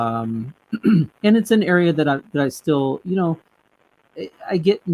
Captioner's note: clears throat